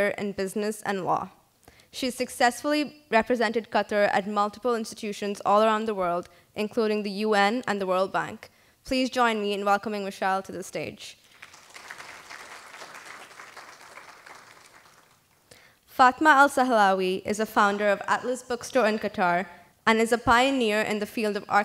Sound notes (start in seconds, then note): 11.2 applause